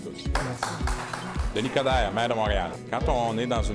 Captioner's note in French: applaudissements